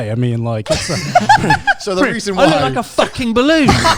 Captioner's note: laughs quickly